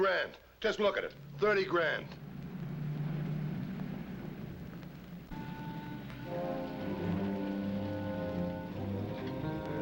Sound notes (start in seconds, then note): 2.0 car engine humming; 5.3 tense, dramatic music